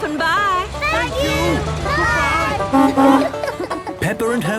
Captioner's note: honking